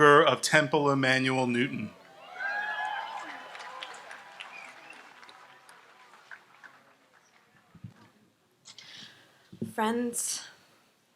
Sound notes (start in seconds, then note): 1.8 audience applauds and cheers